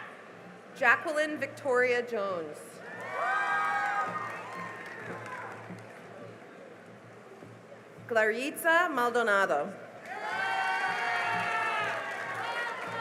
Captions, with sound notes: Jacquelynn Victoria Jones [CHEERING AND APPLAUSE] Claritza Maldonado [CHEERING AND APPLAUSE]